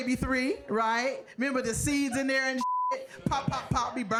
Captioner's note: beep